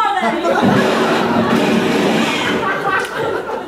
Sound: audience laughing; gunshot; audience laughing

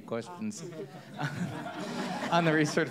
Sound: audience laughs

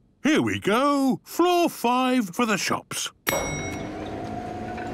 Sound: elevator dinging

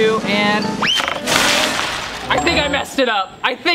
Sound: beads drop

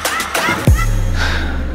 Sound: sighs

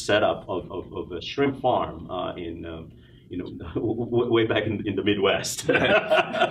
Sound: laughs

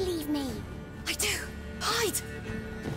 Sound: whisper; soft thud

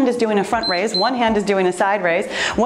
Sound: timer beeps

